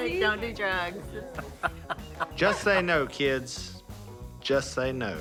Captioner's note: Si laughs